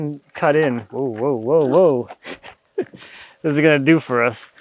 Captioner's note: chuckles